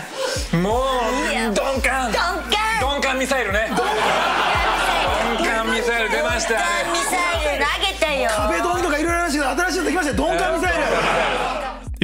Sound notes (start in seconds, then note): 0.2 speaking foreign language; 3.6 audience laughs; 4.5 speaking foreign language